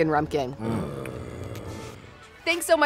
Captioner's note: monster growling